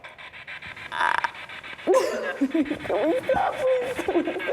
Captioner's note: Isabel crying